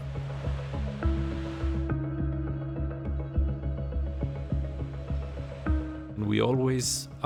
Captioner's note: waves lapping